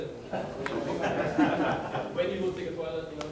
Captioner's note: audience laughing